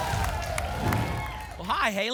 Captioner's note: whoosh; applause and cheering